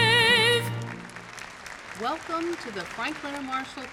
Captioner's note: audience applause